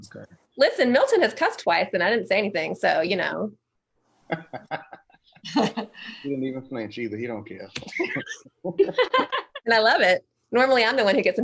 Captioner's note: laughter